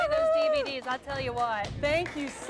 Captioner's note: �applause�